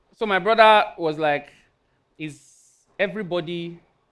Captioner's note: none